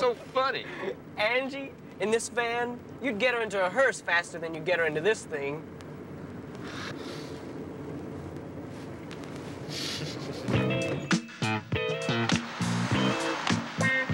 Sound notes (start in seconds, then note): 7.1 Joe laughs; 10.5 disco music